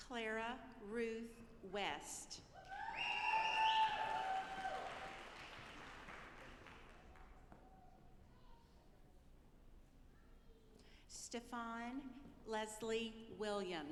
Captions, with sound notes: Clara Ruth West. (audience applauding) Stephon Leslie Williams.